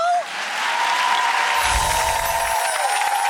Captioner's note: applause